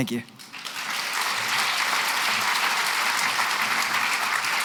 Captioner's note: applause